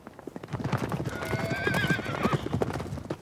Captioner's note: horses whinnying